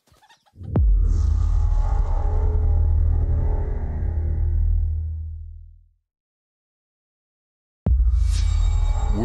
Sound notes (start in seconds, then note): 0.6 transition sound